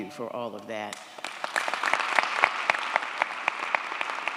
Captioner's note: audience applauds